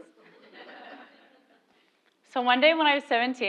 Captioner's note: laugh